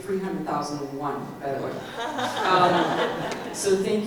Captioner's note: audience laugh